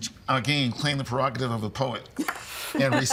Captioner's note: laughing